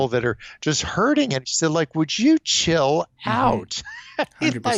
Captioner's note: chuckles